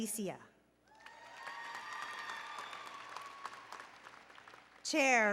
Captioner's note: applause and Cheering